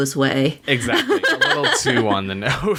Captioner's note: laughs